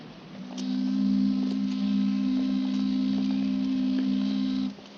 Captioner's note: boat team whistle blowing